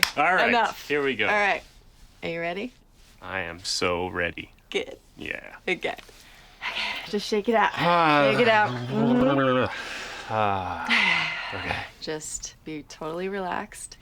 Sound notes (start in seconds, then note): 9.5 sighs; 10.8 exhales sharply